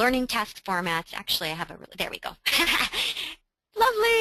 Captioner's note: laughing